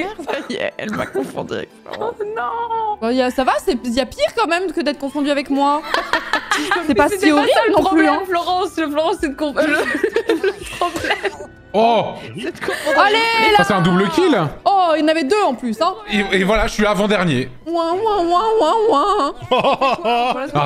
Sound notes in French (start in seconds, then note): 5.8 rient; 9.5 bafouille et rit; 19.6 rigole